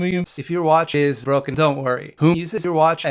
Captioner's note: none